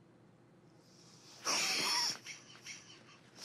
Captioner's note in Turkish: Öksürüyor